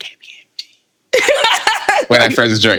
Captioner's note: laughing